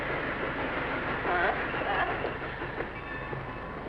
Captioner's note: train chugging